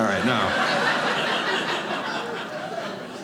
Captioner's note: audience laughing